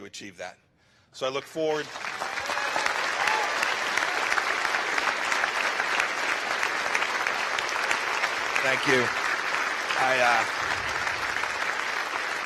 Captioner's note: applause